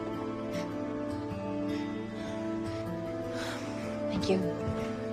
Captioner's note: shallow breathing